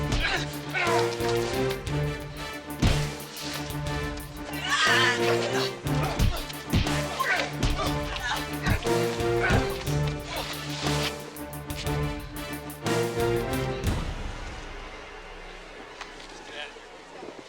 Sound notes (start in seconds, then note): 0.2 dramatic music; 8.6 punches thudding; 9.1 people groaning